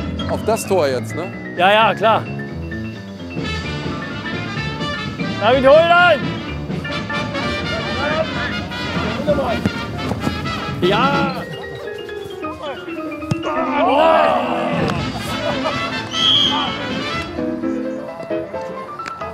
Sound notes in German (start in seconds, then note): 2.2 Beschwingt-lebhafte Musik; 16.0 Pfiff